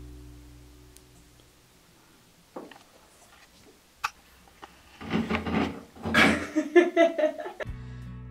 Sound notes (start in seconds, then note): 6.1 laughs